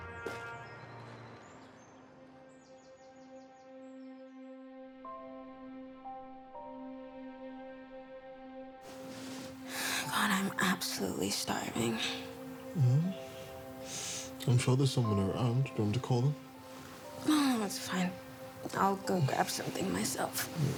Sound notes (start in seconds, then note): 0.2 birds chirping; 2.9 gentle music; 8.9 exhales